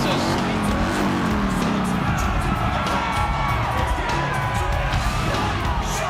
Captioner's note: motorcycle revving; upbeat rock music